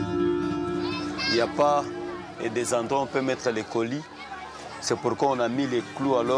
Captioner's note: foreign language